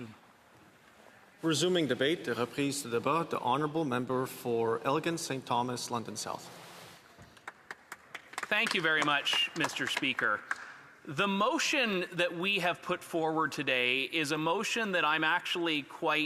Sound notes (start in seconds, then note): 8.0 speaking French